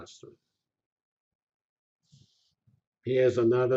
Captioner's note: pause